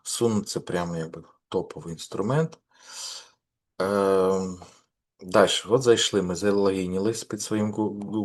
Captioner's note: сопіння